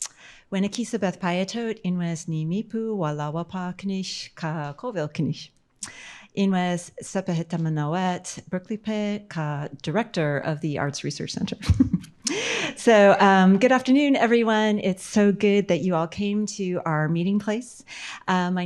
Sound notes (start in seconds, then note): 11.5 laughs